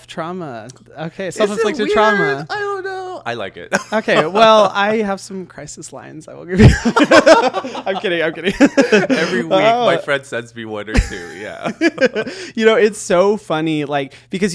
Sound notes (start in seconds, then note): 6.6 both laughing; 10.9 giggling